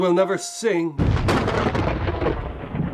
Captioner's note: thunder